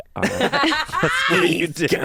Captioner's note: everyone laughs